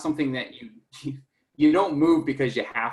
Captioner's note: chuckles